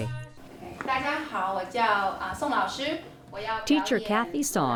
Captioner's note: speaking Mandarin